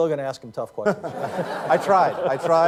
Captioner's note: laughter